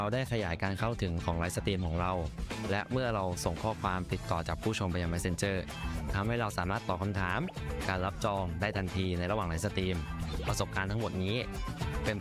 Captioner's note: speaking another language